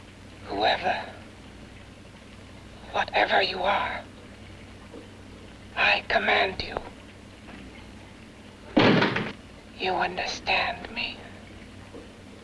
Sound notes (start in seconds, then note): 8.7 knocks